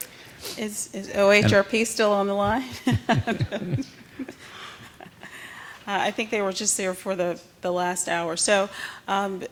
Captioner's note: laughter